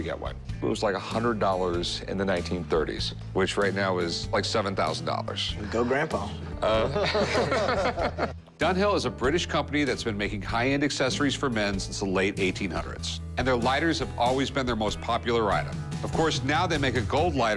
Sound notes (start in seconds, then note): 5.6 laughter